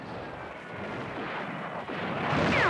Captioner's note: gunfire